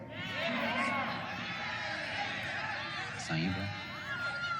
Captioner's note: crowd arguing